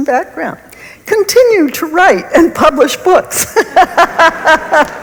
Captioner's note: laughs